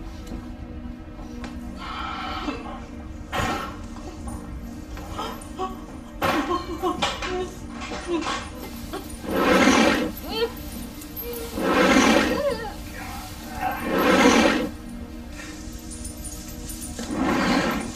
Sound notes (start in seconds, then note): 0.1 suspense music playing; 1.8 exhales deeply; 4.0 clattering sound; 4.8 sobbing; 11.1 whimpering; 11.4 object dragging sound; 16.0 chain rattling